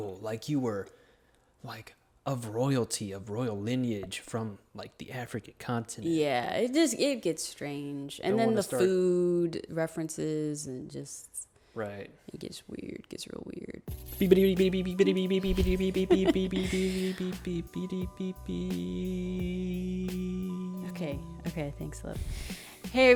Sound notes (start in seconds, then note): 14.2 chuckles; 15.5 imitates truck beeping